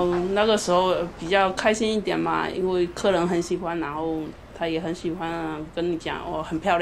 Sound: speaking Mandarin

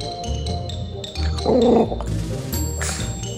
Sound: grumbling

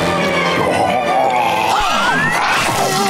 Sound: gasping

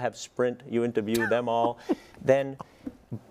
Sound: laugh

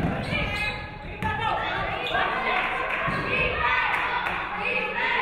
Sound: audience cheering

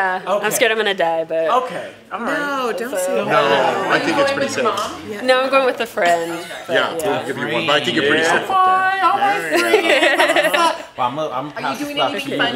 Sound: laughter

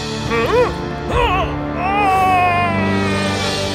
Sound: yell

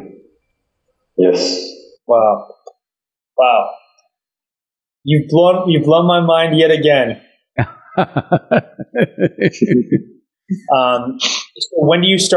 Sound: Sadhguru laughs

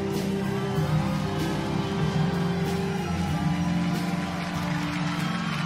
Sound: audience applauds

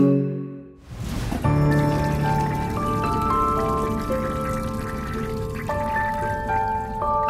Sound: gentle music; water burbling

